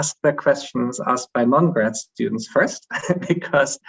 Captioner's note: chuckles